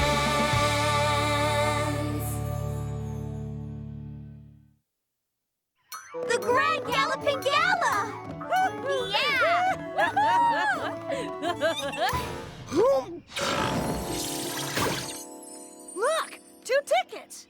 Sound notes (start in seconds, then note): 9.5 both giggling; 12.7 gasps, burps